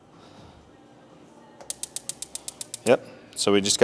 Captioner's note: igniters clicking